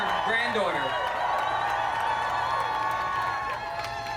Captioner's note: cheering and applause